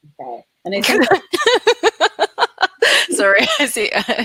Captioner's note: laughing